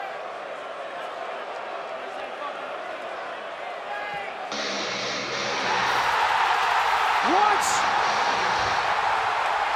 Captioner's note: crowd chatter